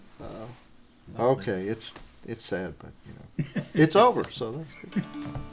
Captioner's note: laughter